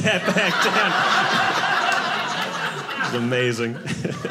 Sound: audience laughing

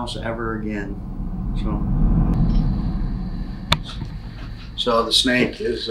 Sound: air whooshing

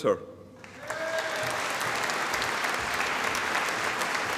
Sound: audience applauding

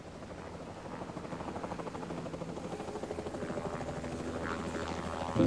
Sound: helicopter flying

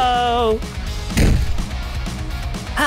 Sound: thud

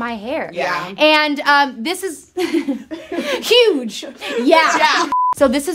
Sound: laughs

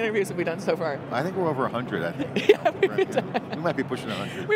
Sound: laughing loudly

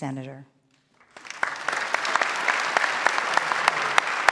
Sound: clapping

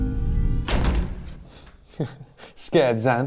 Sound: door slams loudly

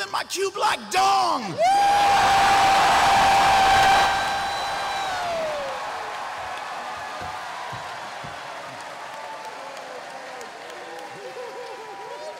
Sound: cheering

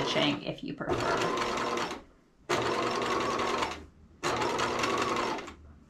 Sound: sewing machine clunking

